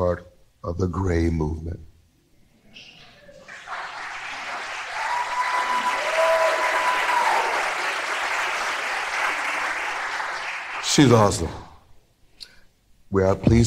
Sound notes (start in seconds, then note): 9.3 applause